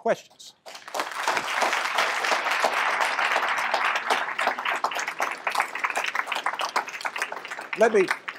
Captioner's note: applause